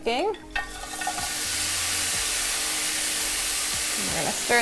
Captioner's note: vegetables sizzling